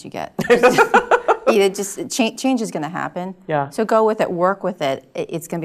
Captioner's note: laugh